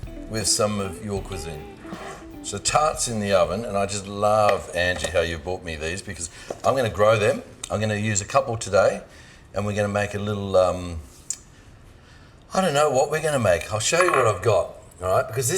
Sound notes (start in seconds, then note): none